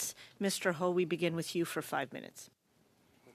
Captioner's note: speaking French